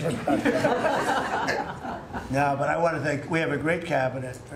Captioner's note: laughter